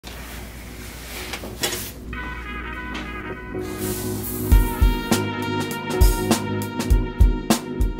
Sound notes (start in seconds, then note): 0.1 curtains sliding; 0.3 mellow music